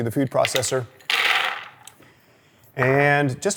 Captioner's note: hazelnuts clattering